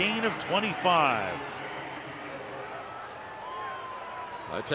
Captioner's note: pa announcement